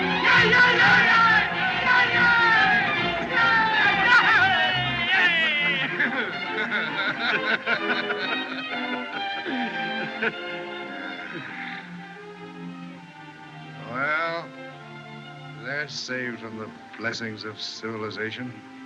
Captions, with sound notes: [Curley, Doc Shouting] - Yea! Yea! - Yea! [Both Laughing] [Doc Sighs] Well, they're saved from the blessings of civilization.